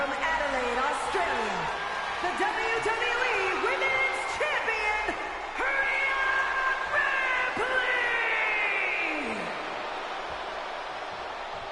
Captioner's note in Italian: Applauso